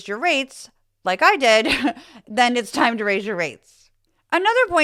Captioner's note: laugh